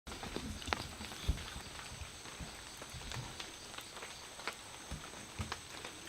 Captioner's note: raining